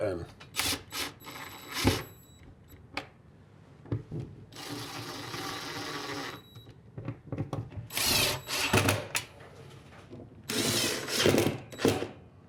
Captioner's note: drill